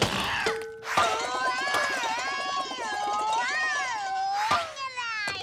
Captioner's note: Captain Flamingo yells